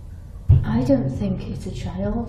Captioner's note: thudding sound